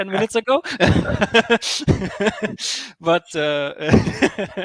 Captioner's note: laughing